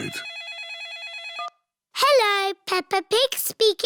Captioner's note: phone rings